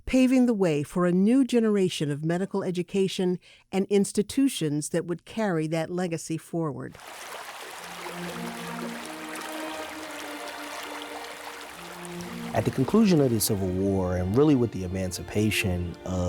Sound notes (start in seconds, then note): 6.9 water sloshing; 7.8 dramatic music